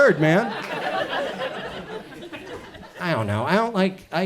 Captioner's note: audience chuckles